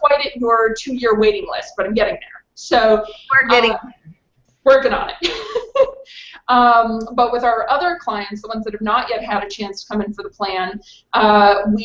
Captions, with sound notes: - I'm not quite at your two year waiting list, but I'm getting there. - You are getting there. - Working on it. (laughs) But with our other clients, the ones that have not yet had a chance to come in for the plan,